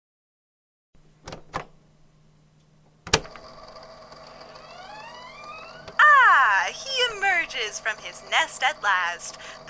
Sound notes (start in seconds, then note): 0.0 click; 4.2 door creaks open